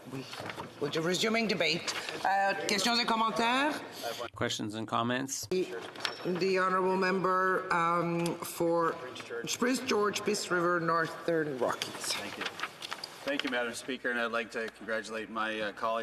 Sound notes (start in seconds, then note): none